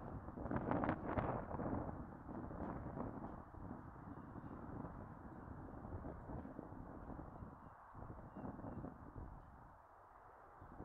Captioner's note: wind blowing